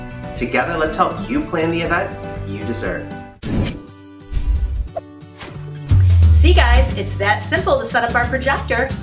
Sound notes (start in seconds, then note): 3.4 upbeat music; 4.3 air whooshing